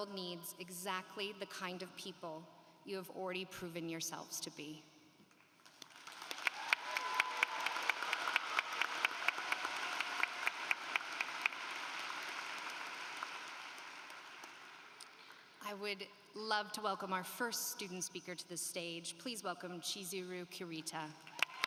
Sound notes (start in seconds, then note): 5.6 applause